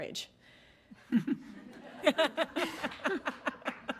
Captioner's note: audience laughs